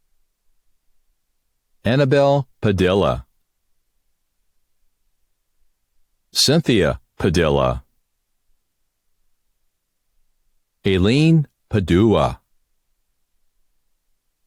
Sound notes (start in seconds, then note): none